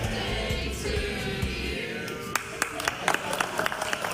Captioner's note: clapping